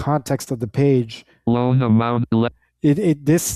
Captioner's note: automated Voice